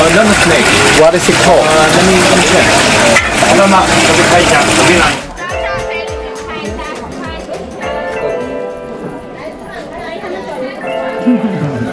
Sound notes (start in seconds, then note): 6.7 people talk in Chinese